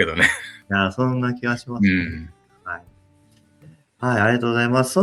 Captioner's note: laughs